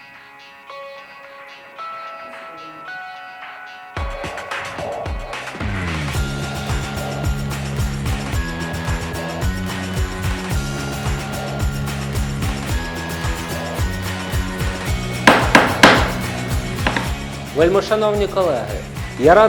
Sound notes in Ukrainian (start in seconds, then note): 15.2 удари молотком